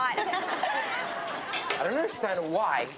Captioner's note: audience laughs